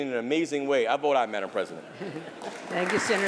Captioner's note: applause